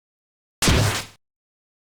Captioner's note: Deltarune SOUL rip sound